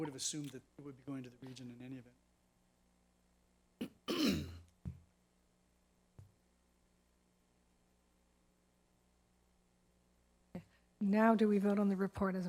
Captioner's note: silence